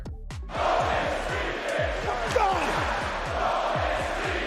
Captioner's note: crowd